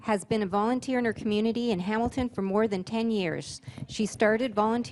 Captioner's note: voice-over